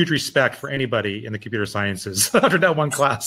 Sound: laughing

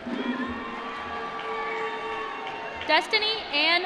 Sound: applause

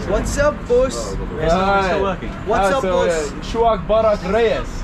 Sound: speaking in Arabic

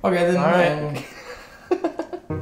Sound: laughing

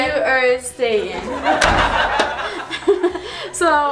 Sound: audience laughing; giggles; door clicks shut

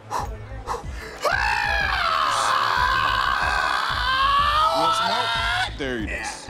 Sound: panting; screams in pain

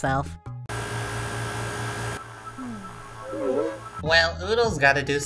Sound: air conditioners blowing

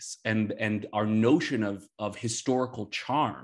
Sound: none

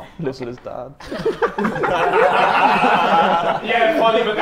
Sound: Sidemen laugh

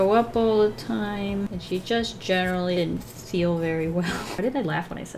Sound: laughs

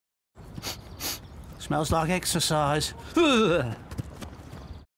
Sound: sniff sniff

